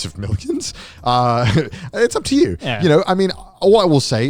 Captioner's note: laughs